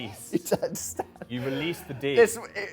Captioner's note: laughing